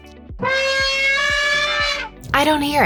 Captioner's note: elephant trumpets